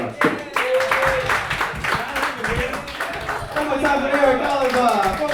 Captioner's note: audience clapping